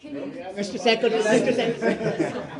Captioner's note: laughter